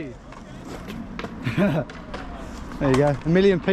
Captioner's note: laughs